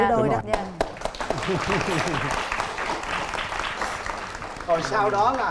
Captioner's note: applause